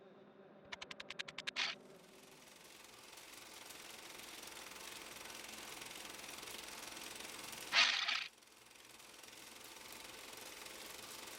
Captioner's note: film roll noise